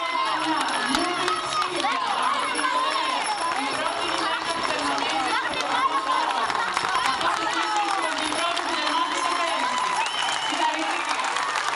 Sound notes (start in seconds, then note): 2.1 applause; 2.1 cheering